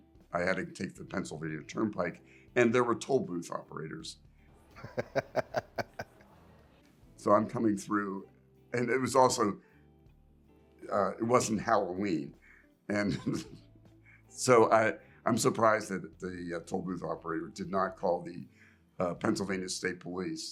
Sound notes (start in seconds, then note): 4.7 laughing; 13.0 chuckles